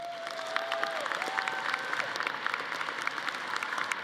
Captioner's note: audience applauding